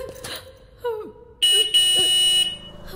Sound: horn blares

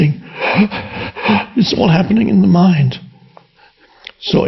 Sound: breathes heavy

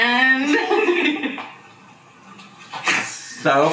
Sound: laughs softly

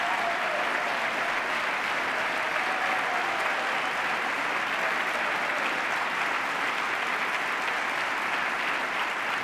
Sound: cheers, applause

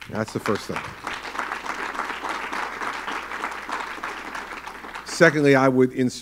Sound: applause

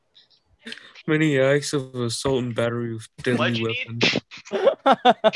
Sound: groans, Sighs

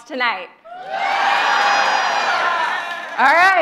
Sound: audience cheers

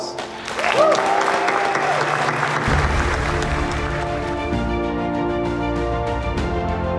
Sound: upbeat music; students clapping

